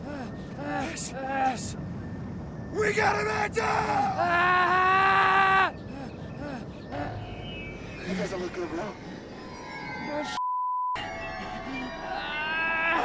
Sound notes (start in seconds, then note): 3.6 Ash screams; 11.8 screams